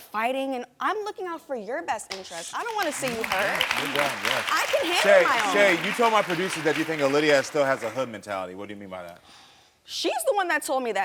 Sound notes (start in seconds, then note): 2.4 audience clapping